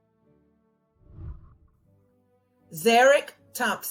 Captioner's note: whooshing